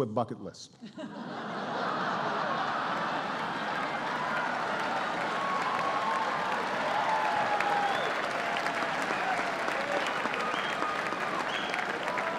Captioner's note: laughter and applause